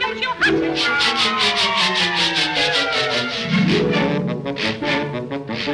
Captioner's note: brush scraping; tense music; washboard scraping